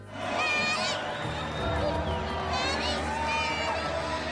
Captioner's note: crowd cheering